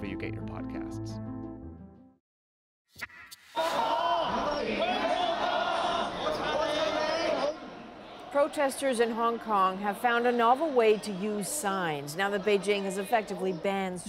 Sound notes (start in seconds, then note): 11.1 crowd Noise